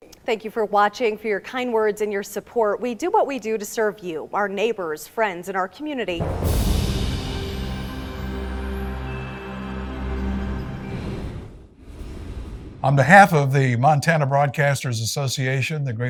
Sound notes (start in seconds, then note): 6.2 soft music; 6.5 wind whooshing